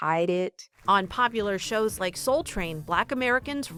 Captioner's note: voice-over